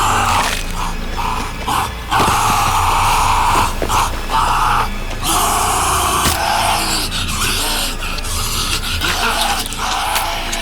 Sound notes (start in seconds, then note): 4.9 snarling